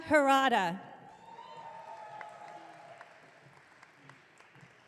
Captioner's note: audience clapping